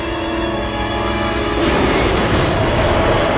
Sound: roaring

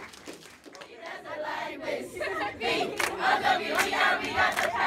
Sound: applause

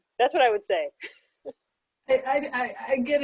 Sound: laugh

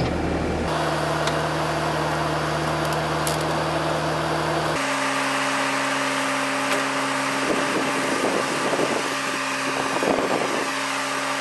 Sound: skid-steer engine running, video sped up

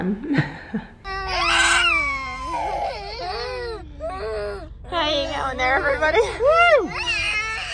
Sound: kids screaming

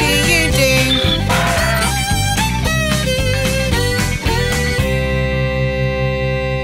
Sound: upbeat music continues; donkey braying

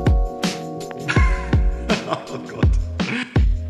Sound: laughing

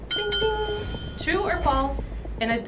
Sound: dinging

